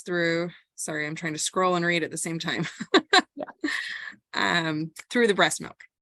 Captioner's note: laugh